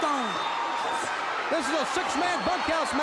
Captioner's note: crowd cheering